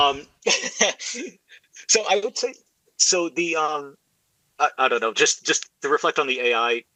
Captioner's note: laughs